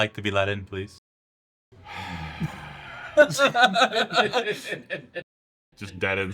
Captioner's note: heavy sigh, followed by a group laugh